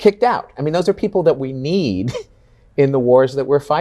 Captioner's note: chuckles